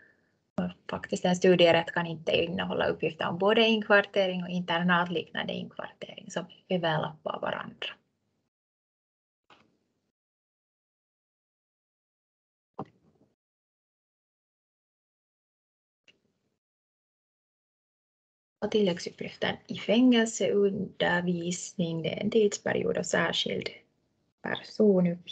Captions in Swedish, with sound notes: och en studierätt kan inte innehålla uppgifter om både inkvartering - och internatliknande inkvartering som överlappar varandra. [Tystnad] Tilläggsuppgifter i fängelsundervisning, tidsperiod och särskild personuppgift.